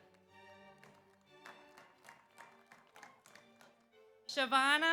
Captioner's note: audience applauds